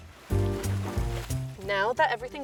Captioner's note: water splashed; upbeat music